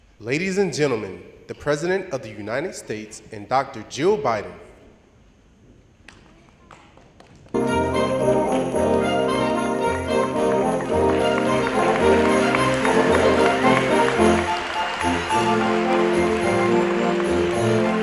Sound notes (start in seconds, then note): 7.2 applause and Music